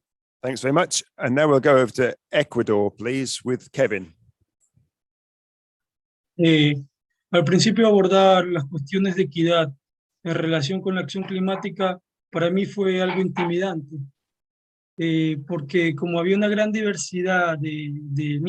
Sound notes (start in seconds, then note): 7.3 speaking Spanish